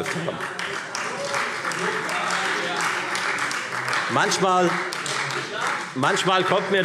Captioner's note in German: Beifall Freie Demokraten - Zurufe CDU